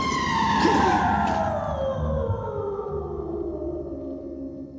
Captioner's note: eerie screaming